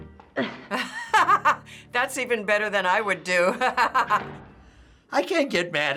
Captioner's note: laughs